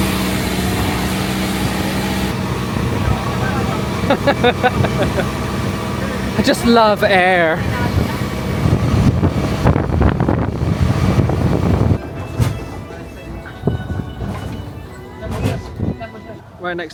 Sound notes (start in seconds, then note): 3.2 laughing; 7.5 engine rumbling; 7.5 wind whipping; 11.5 caribbean music; 12.5 crowd chattering